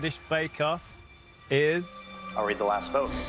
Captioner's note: soundbite of tv show, "survivor"